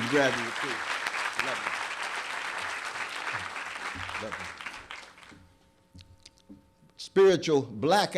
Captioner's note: applause